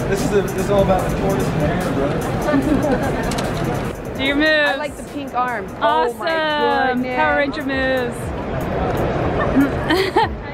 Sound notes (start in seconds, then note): 2.1 people laughing